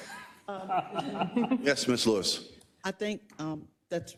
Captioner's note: laugh